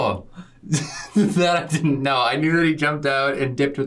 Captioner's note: laughs